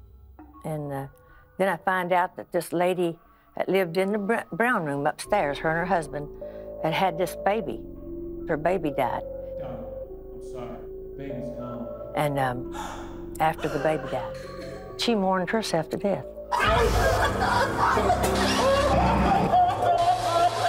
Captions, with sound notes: And then I find out that this lady that lived in the brown room upstairs-- her and her husband-- and had this baby. Her baby died. Darling, I'm sorry. The baby's gone. And after the baby died, she mourned herself to death. [sobbing]